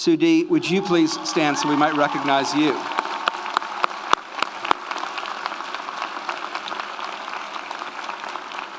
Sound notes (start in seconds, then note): 3.1 audience applauds; 3.1 audience cheers